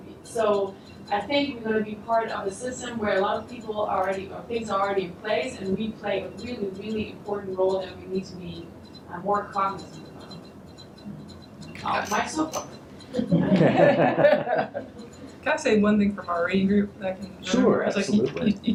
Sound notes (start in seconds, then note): 13.1 laughter